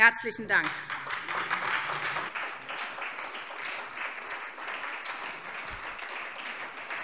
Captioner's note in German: Beifall SPD und vereinzelt DIE LINKE